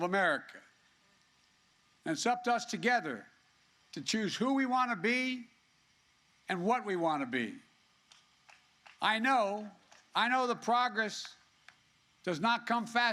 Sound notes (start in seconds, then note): 8.0 applause